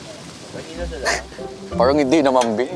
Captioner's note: giggling